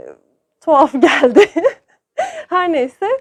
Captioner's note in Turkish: gülüşmeler